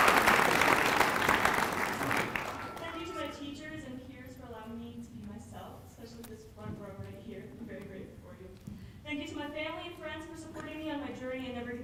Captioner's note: applause